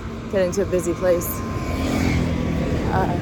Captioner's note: vehicles pass